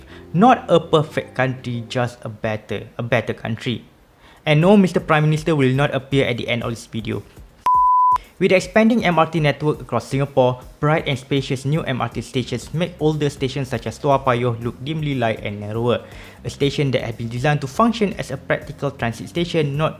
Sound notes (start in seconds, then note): 7.6 beep